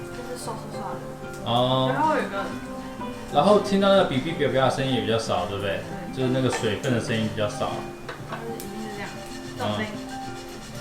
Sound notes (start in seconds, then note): 4.5 crackling